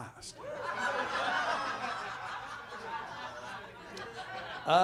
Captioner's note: audience laughs